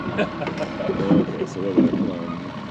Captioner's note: chuckling; boat engine running